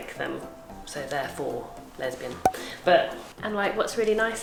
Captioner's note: popping